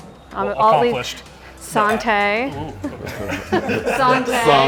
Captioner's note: laughing